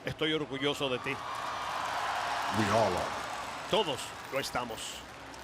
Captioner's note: applause